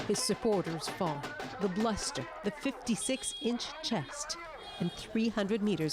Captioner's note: cheers and Applause